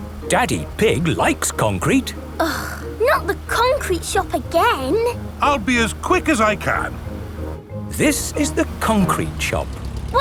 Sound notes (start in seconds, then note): none